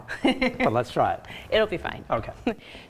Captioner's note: laughing